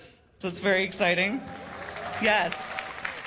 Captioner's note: cheers and applause